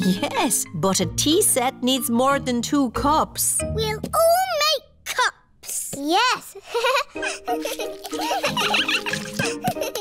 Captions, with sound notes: Yes. But a tea set needs more than two cups. -We'll all make cups! -Yes. (GIGGLES) (ALL GIGGLING)